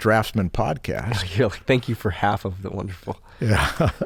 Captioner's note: chuckles